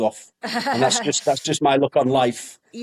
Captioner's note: giggles